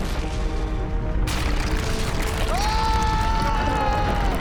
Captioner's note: gunshot; male scream